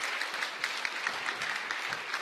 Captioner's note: applause